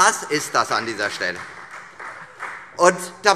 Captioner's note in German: Beifall Freie Demokraten